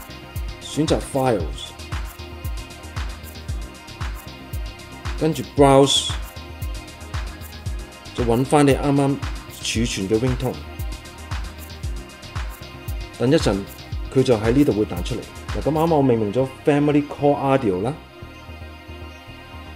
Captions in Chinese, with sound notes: 選擇 "File" 再按 'Browse ...................... file app 尋找你剛剛建立的檔案 (Ringtone)